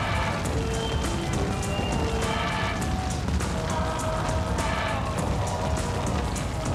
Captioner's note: upbeat music continues; fire roaring continues